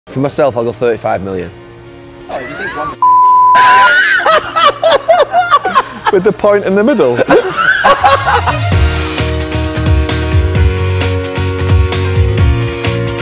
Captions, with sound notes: For myself I'll go £35m. (laughs). With the point in the middle?